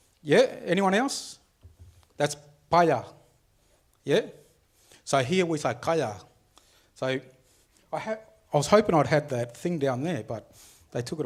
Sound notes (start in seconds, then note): 2.6 speaks foreign language; 5.9 speaks foreign language